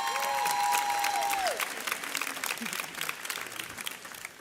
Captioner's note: audience cheers